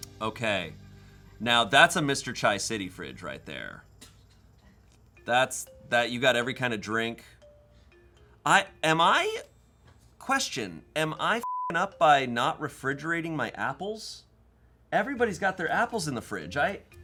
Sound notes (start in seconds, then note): 11.4 beep